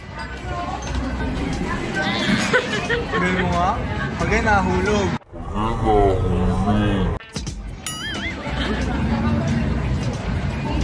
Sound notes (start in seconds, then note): 6.3 slowmo voice